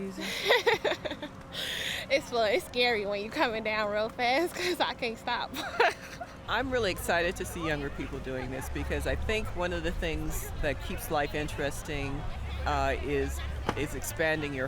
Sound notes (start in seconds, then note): 0.1 laughing